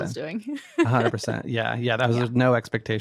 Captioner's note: laughs